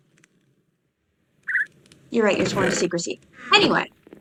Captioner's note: bird chirps